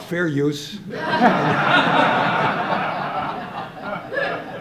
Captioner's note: audience laughing